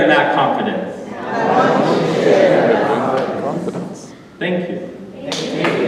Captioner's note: audience repeating